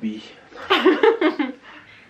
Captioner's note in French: rires